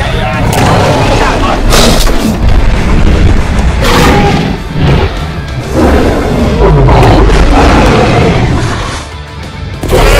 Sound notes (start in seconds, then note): 2.2 crash sounds; 3.7 loud roars